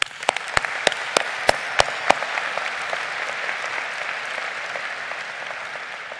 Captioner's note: crowd applauding